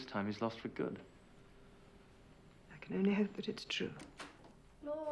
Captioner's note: door Opens